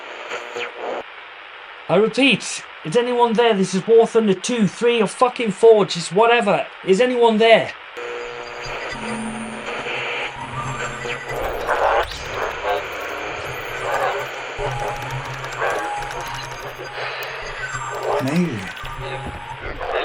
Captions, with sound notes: I repeat. Is anyone there? This is War Thunder 2, three, or fucking four. Just whatever. Is anyone there? (radio static buzzing) (strange voices echoing) - An alien.